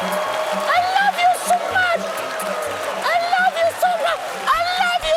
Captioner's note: cheers and applause